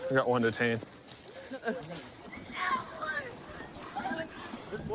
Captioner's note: yelling